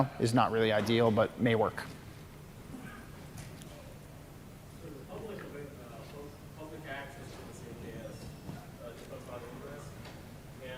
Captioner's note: off mic